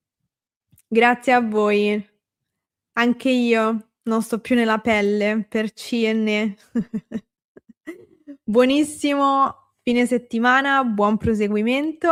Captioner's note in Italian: risate